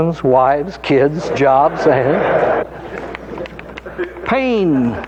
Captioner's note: audience laughing